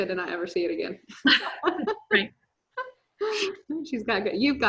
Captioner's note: chuckles